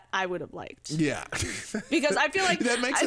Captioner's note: laughs